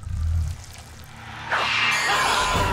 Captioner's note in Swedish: skrämmande ljud